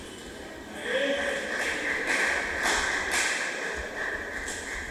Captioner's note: applause